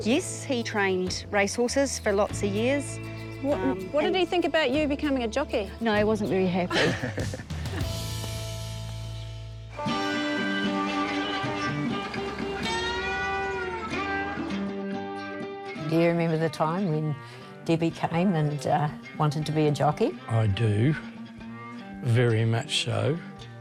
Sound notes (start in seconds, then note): 6.6 all chuckle; 9.7 folk music